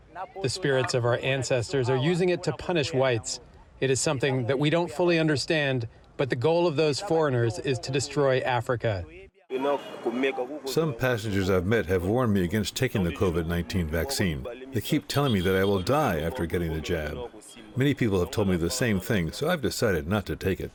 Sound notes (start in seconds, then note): 10.1 through translator